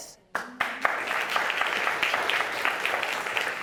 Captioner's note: audience applauding